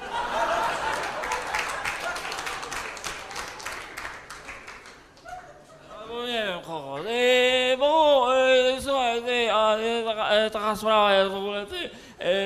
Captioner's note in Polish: Aplauz